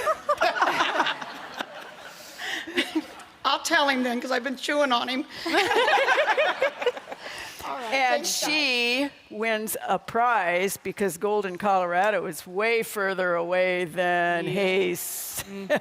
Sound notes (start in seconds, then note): 0.0 group laughing; 5.5 audience laughing